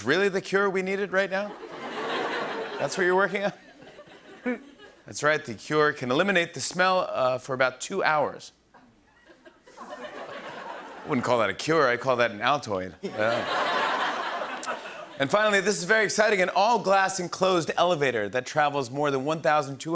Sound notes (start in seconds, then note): 1.5 laughter; 10.3 laughter